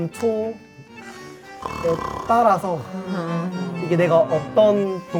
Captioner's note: snore